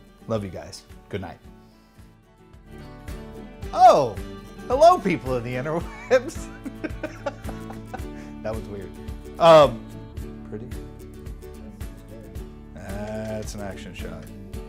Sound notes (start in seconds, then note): 6.4 starts laughing